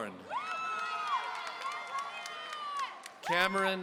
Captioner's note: audience cheering